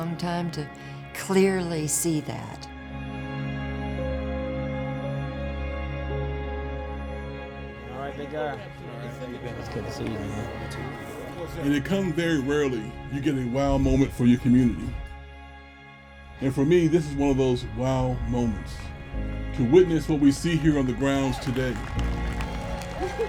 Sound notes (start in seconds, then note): 4.0 soft music; 12.1 people chattering